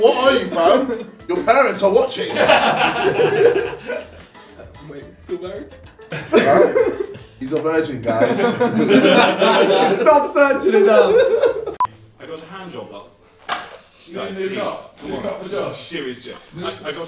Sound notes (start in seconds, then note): 2.2 laughing; 14.3 cup hitting Ethan